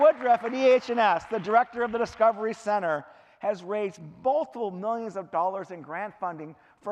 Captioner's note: clapping